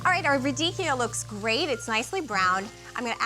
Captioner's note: sizzling